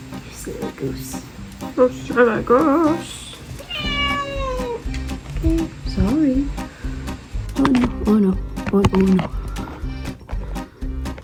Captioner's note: meow